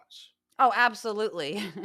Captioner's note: laugh